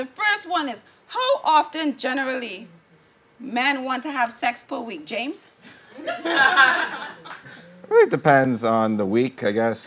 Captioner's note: laughing